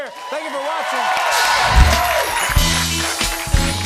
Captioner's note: cheers and applause